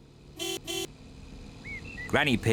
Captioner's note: car horn honks